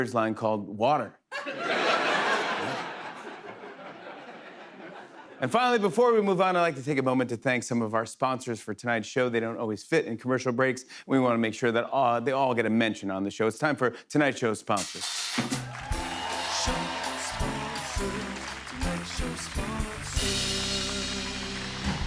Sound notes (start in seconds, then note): 1.3 laughter; 21.8 applause